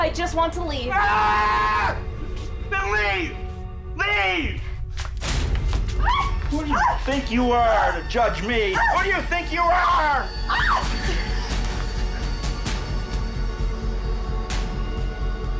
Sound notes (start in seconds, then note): 6.0 Liz yells; 10.5 Liz yells; 11.7 eerie music